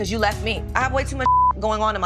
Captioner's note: beep